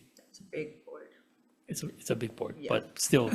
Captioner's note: chuckles